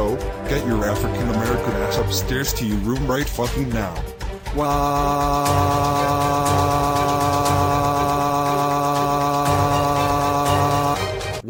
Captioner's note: CJ Crying